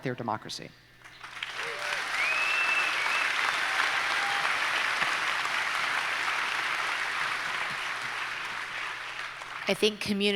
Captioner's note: audience applauds